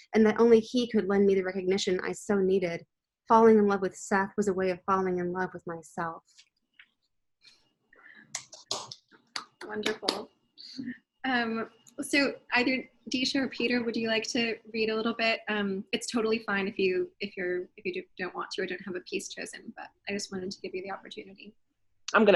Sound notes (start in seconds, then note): 9.2 group clapping